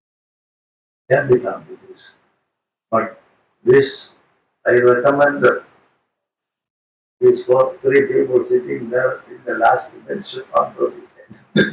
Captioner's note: laughing